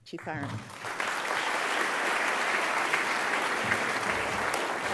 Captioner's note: audience clapping